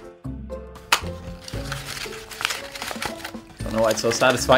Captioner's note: paper crumpling